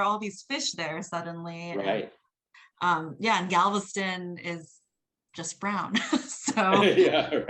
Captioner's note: laughs